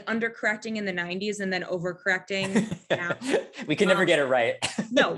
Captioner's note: laughing